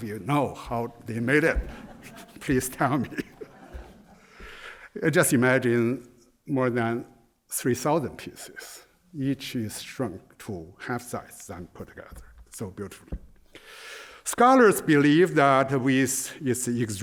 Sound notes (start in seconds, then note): 3.5 laughter